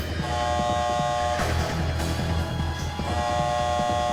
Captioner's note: alarm buzzing